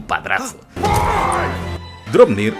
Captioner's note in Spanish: muy enfadado